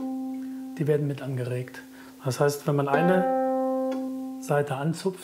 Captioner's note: Hoher Ton; Hoher Ton